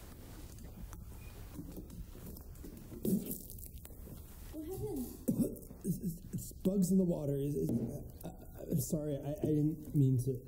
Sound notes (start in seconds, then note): 3.0 spits water